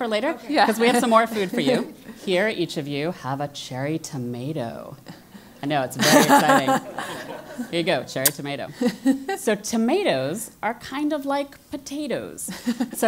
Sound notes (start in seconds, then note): 5.8 laugh